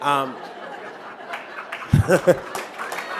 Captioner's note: laughter